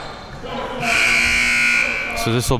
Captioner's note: buzzer buzzing